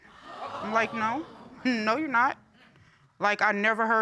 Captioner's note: audience exclaiming